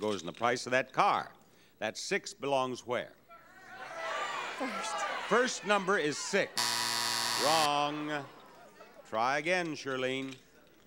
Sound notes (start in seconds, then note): 3.5 audience yelling; 6.5 buzzer sounds